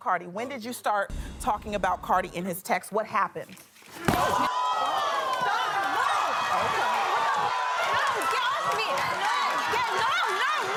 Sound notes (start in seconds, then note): 4.1 punch and audience screaming